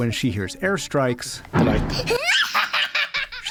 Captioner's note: laughter